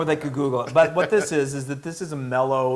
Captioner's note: laugh